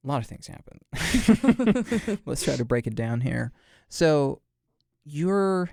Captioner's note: both chuckle